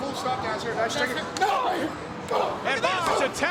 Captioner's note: both grunt